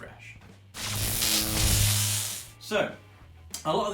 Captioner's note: electric buzz